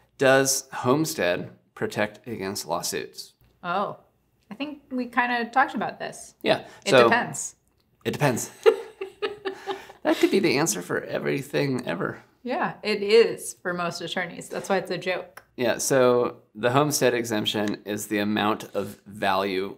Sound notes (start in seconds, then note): 8.5 giggling